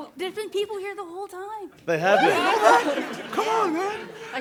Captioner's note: laughter and chatter